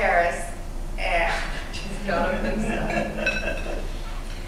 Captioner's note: laughter